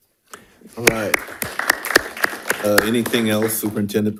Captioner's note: audience applauding